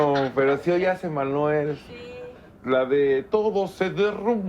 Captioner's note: none